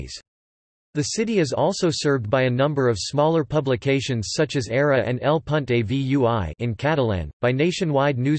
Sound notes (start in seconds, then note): 6.6 in Catalan